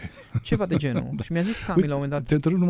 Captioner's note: laughter